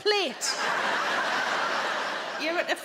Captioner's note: crowd laughs